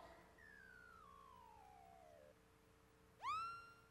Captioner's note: slow beeps